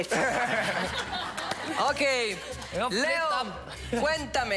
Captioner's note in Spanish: Risas